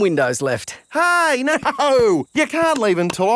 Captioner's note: laughing